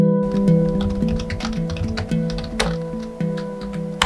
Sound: typing

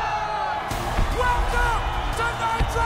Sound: cheering

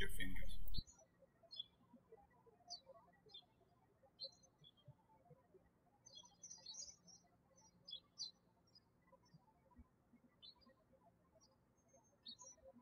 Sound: birds chirping

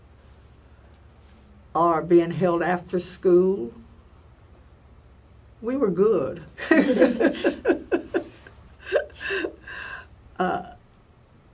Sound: all laugh

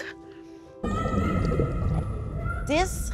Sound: woman screaming

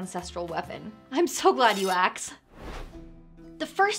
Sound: metallic swoosh

